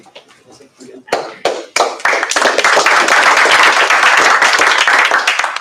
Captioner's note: applause